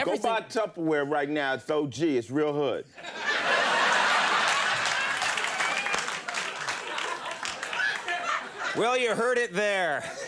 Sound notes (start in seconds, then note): 3.0 audience laughing